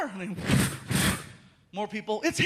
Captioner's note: whooshing